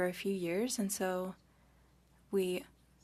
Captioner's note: speaking French